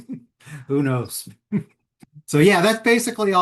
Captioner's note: chuckles